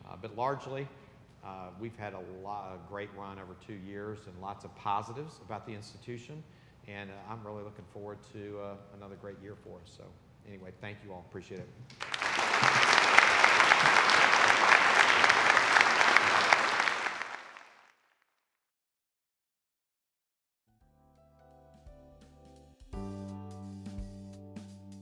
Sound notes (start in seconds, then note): 11.9 attendees applauding; 20.8 mellow jazz music